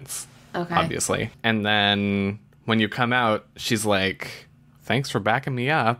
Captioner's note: sarcastically